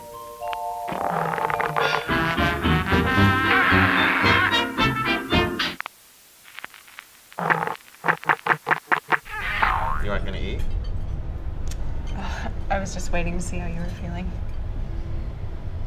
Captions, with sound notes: (squeaking) - You're not gonna eat? - I was just waiting to see how you were feeling.